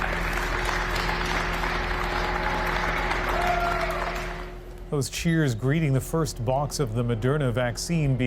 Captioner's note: applause